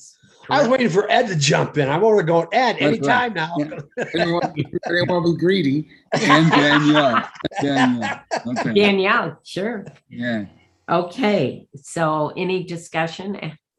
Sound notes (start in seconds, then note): 3.8 laughs; 6.2 laughs